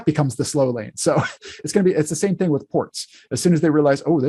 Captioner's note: laughs